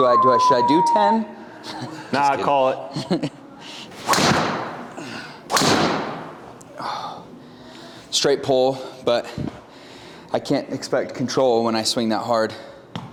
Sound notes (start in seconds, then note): 2.9 chuckles; 4.0 golf club whacks